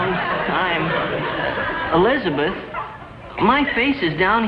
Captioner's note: audience laughs